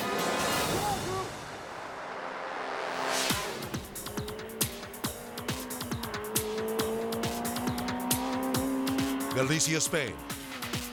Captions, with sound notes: (dramatic whoosh) (lively music) (car revving) Benissa, Spain...